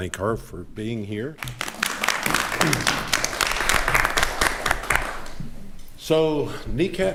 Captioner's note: attendees applauding